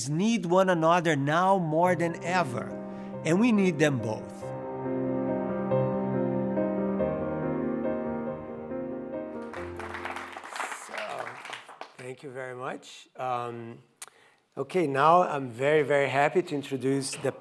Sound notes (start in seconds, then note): 5.2 soothing music; 9.3 audience clapping